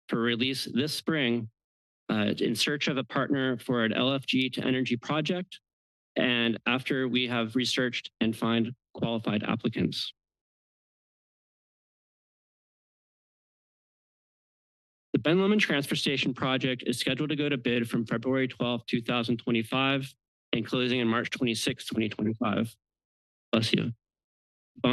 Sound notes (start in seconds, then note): 10.2 pause